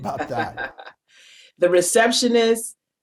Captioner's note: laughs